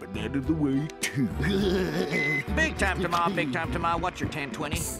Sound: laughing

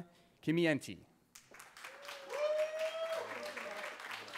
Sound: cheering

